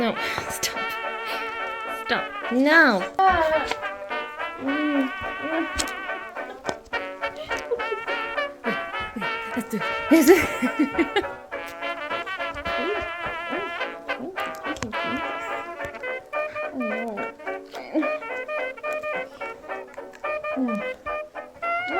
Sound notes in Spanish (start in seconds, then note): 4.1 ríe; 4.1 llora; 4.4 llora un poco más; 7.3 los ruidos de payaso desesperados se intensifican; 10.3 ríe; 18.0 mastica; 18.0 suena un saxofón de fondo